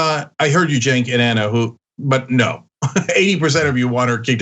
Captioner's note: laugh